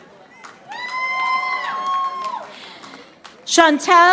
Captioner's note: audience applauding